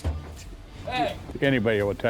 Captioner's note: man's voice off-screen